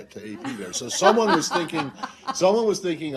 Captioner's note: laughter